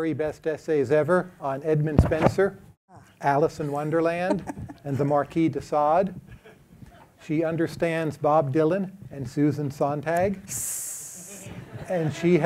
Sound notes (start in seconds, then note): 3.5 laughs; 10.5 hisses